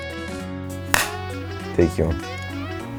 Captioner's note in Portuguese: claquete